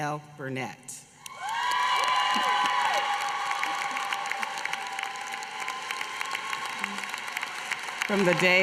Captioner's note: applause